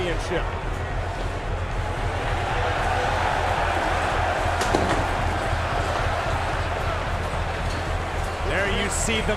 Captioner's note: crowd cheering